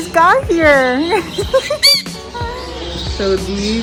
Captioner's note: laughter